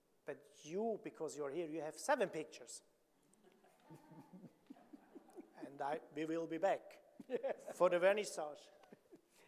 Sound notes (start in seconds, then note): 3.8 audience laughing